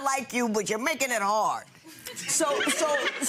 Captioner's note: audience laughing